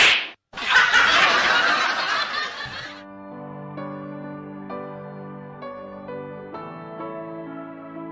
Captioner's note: laughs